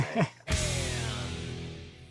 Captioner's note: laughs